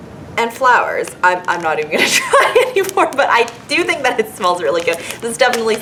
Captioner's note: laughs